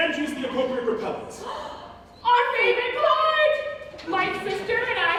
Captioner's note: gasp, in unison